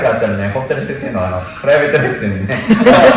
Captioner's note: laughs